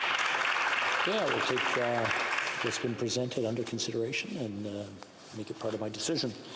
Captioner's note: applause